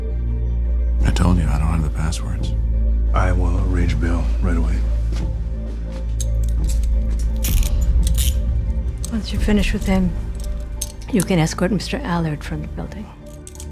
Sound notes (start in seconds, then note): 6.1 handcuffs clicking